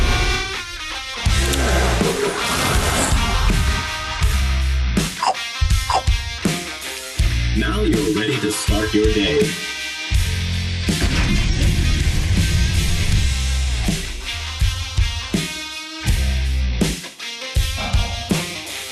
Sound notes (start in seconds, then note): 0.2 dramatic upbeat music; 5.1 player chomping donuts; 14.4 dramatic upbeat music continues